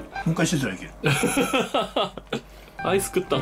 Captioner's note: laughter